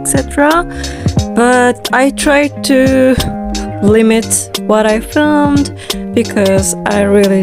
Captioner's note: anxious breath